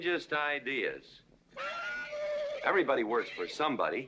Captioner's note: horse neighing